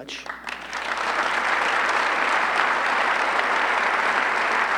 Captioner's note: audience clapping